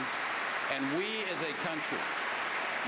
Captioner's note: applause